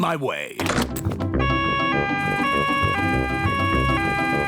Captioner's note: siren wails